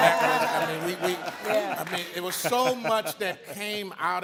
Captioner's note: all laughing